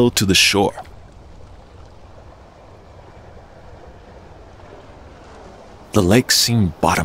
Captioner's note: sound of running water